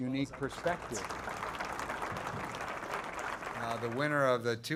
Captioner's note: crowd applauds